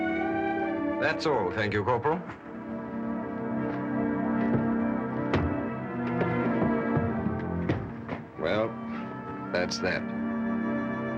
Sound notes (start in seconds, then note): none